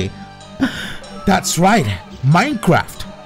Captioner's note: gasp